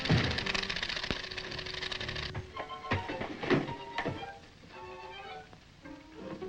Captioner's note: elevator clicks; feet thud